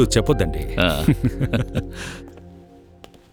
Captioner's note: chuckles